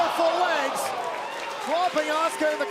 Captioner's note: crowd cheering